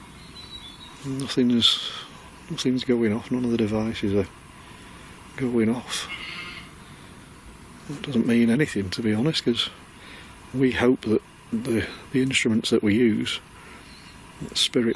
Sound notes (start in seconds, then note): 6.0 sheep bleating